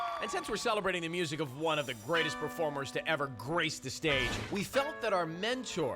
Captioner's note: cheers and applause